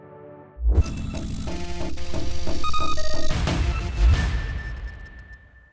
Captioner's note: mechanical and buzzing noises